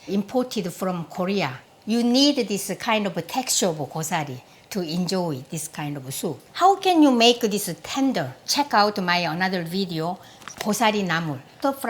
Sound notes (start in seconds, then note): none